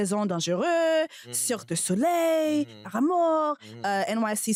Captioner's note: speaking french; speaking french